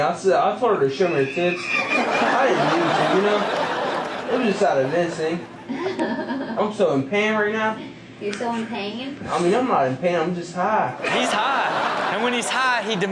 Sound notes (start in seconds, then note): 5.5 nurse laughs nervously